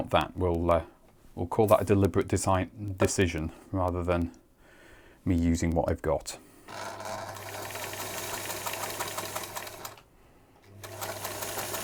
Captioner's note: sewing machine running